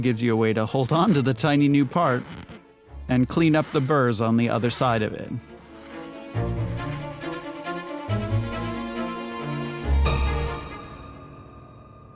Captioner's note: ding